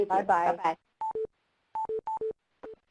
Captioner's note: voiceover